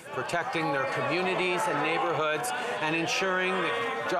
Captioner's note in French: voix de l'interprète